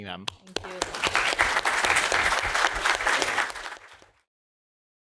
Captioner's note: applause